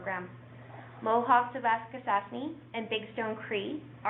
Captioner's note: speaking in foreign language